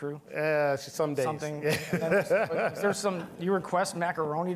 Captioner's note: laughing